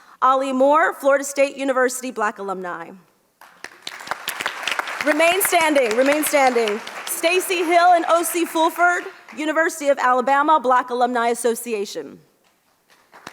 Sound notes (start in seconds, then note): 3.4 audience applauds